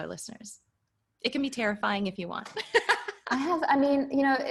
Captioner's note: laughing